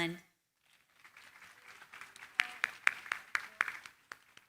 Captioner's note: applause